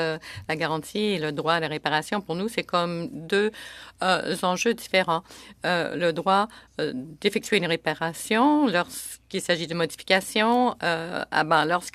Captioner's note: speaking in French